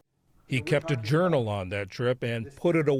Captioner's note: voice-over